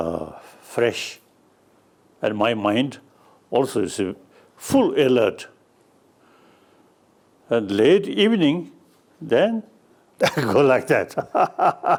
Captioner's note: laughs